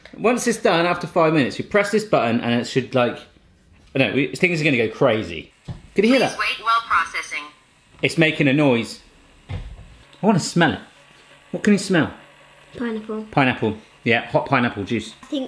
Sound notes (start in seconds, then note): 6.6 buzzing; 9.6 buzzing